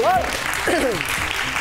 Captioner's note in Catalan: aplaudiments